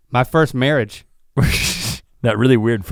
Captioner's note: chuckles